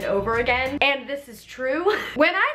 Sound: laughs

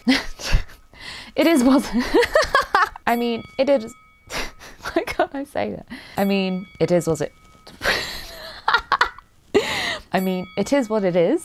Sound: laughs

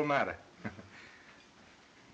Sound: chuckles

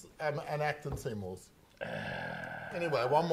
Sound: groaning

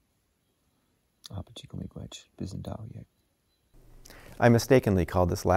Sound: foreign language

